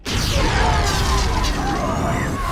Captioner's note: all yelling